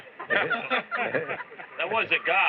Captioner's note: laughter